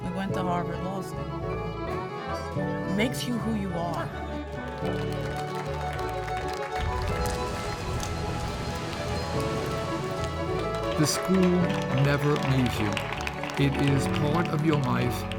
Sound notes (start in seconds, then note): 4.1 applause